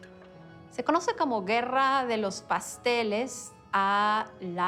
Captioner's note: in Spanish